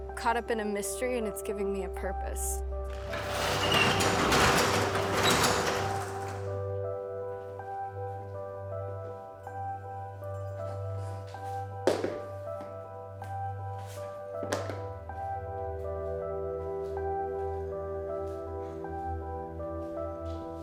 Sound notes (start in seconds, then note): 2.8 door scrapes; 6.2 peaceful music; 11.8 shoes clatter; 16.2 peaceful music